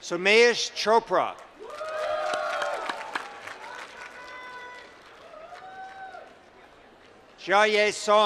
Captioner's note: applause